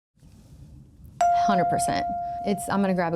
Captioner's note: chime pings